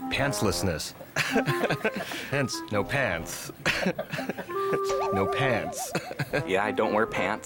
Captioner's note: chuckles